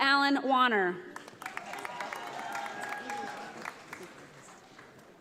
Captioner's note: audience applauding